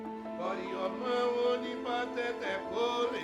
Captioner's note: chanting continues